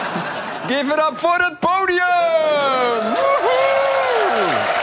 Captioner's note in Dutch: applaus